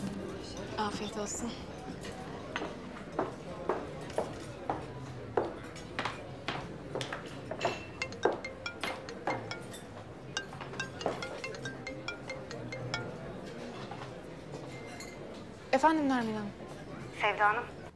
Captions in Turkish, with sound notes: Afiyet olsun. (Telefon çalar.) Efendim Nermin Hanım. Sevda Hanım.